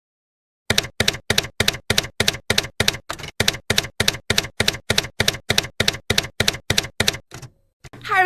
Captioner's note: typewriter keys clacking